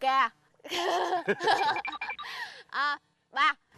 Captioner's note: laughing